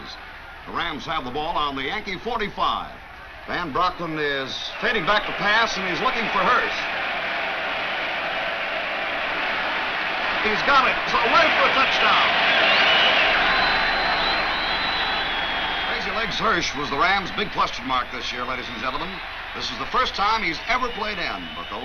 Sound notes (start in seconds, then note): 12.6 crowd cheers